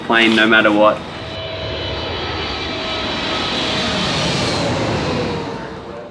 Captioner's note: plane engine running